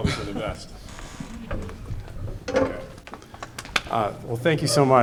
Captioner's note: audience chuckling